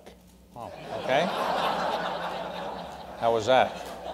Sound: laughter

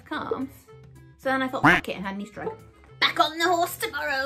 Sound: duck quack

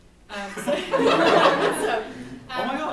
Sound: laughs

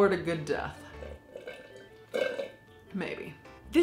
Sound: slurping

